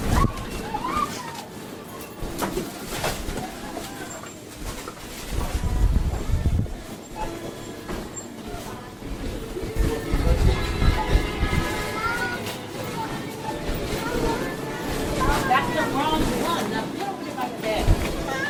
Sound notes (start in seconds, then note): 7.1 checkout beeping